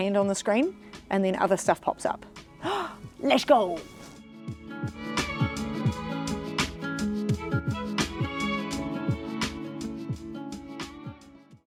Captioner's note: gasps